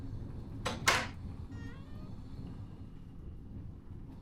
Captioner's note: door clicks